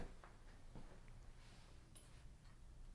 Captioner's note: footsteps